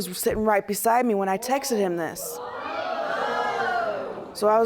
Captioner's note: audience gasping